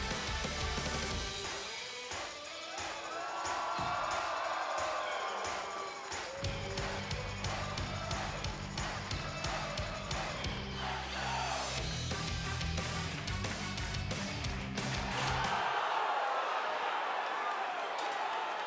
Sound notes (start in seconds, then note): 5.9 cheers